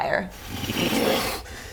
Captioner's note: whoosh